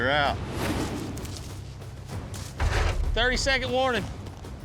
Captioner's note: hoofbeats